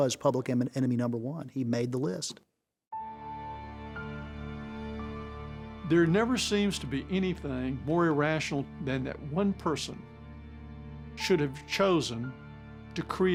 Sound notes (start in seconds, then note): none